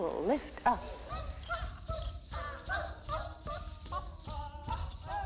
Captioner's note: shouting, rattling